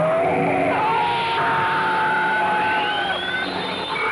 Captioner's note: screaming